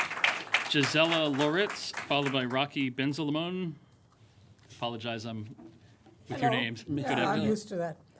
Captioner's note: applause